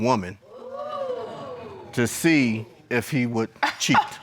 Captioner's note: crowd gasping